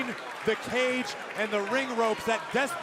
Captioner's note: crowd chatter